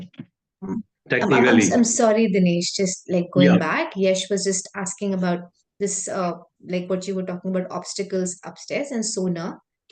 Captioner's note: ISL interpreter speaking